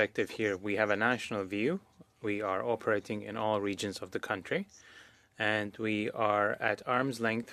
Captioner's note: speaking French